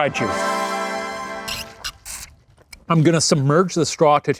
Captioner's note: triumphant music; both sip